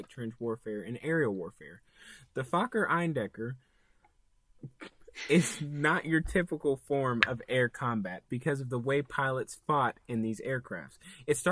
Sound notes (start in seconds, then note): 4.4 laughs